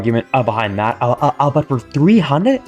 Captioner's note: stutter Moment